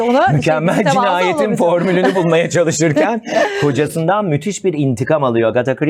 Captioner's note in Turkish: kahkaha